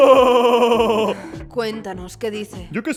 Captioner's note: laughs manically; sighs